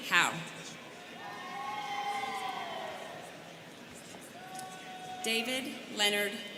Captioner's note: students cheering